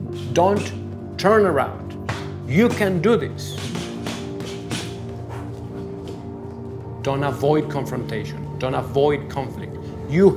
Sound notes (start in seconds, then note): 3.5 boxing gloves pounding